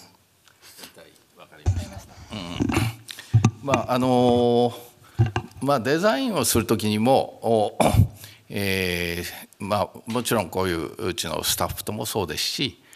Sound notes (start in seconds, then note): 3.4 speaking japanese